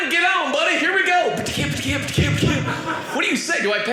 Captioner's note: audience laughing